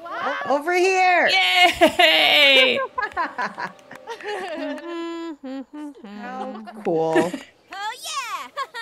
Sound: laugh

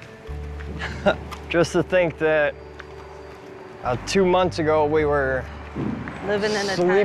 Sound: chuckles

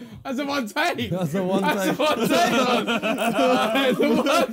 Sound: laughing

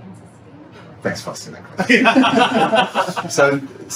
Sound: laughter

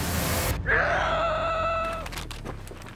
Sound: Jenny screams

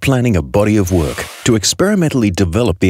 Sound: projection screen being pulled down

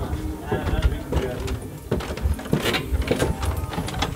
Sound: footsteps

